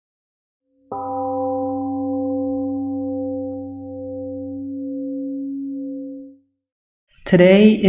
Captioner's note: temple gong rings and fades